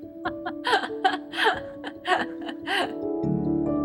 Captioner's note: laughter; soft Music